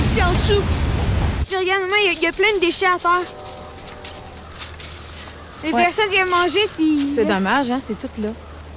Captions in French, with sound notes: - Puis regarde bien, y a plein de déchets à terre. (sifflet de train au loin) Les personnes viennent manger, puis ils laissent... - C'est dommage, hein, c'est tout là.